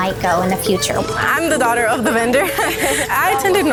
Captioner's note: laughs